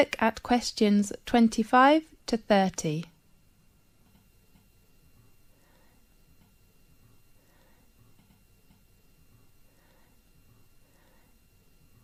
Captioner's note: 5 seconds pause